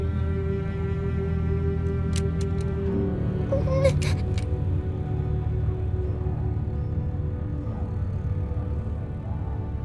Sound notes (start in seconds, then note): 2.1 gun cocks; 3.4 Clem whimpers